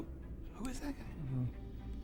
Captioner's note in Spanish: Susurra